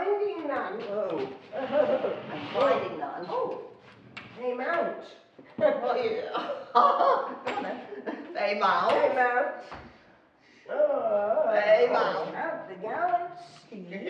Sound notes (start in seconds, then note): 5.6 laughing